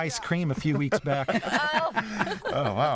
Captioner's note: laughter